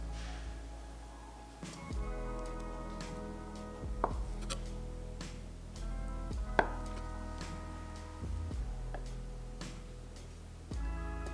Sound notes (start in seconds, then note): 4.3 sound of knife hitting the cutting board